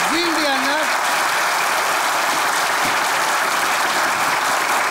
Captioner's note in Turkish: Alkış sesleri